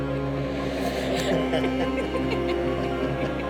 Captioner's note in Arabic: ضحك مراهق